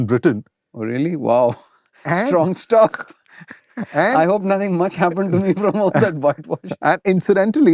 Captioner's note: laughter